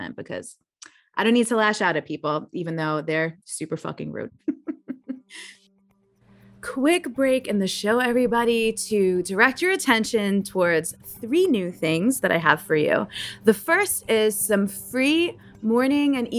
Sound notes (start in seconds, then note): 4.5 laughs